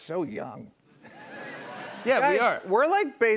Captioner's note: laughter